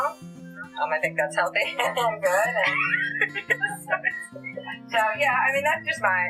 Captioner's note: laughter